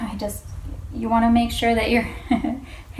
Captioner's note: chuckles